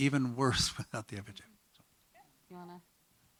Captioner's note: speaking faintly